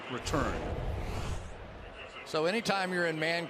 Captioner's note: swoosh